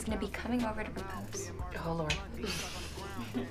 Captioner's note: Kristen chuckles